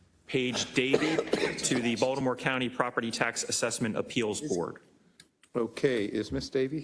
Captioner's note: cough